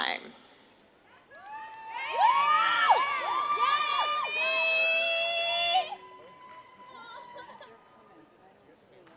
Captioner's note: applause